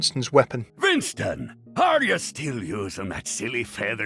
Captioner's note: voiceover